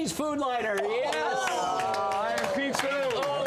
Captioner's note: applause